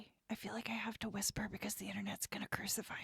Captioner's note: whispers